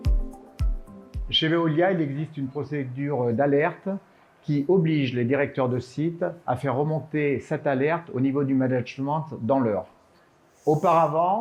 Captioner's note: speaking french